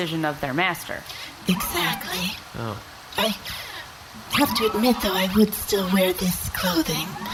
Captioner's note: seductively